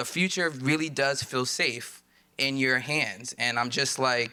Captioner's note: none